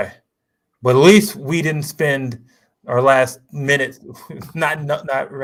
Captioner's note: laughs